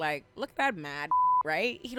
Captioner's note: beep